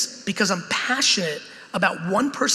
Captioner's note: none